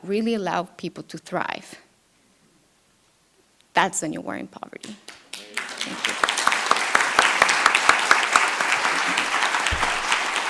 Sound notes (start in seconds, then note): 6.8 audience clapping